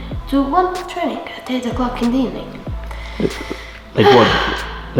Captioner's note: sighs